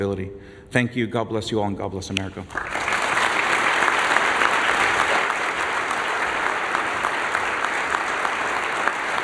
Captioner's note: applause